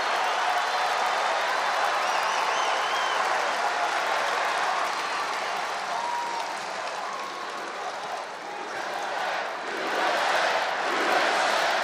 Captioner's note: applause